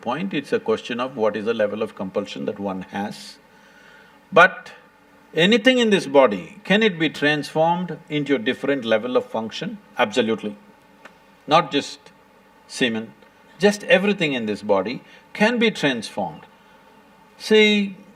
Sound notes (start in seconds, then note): none